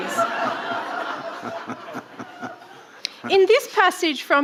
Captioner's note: audience laughing